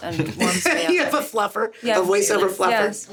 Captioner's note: SungWon laughs; laughs